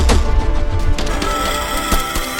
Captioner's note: steps thudding; beast shrieks; gun blasting